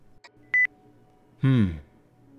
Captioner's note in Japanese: 通話ボタン音：ピッ